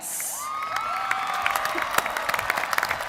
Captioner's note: applause